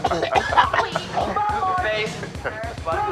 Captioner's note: crowd jeering